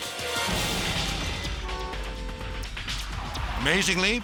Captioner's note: dramatic music; horn honking